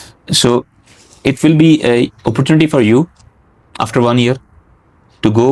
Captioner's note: nasal sound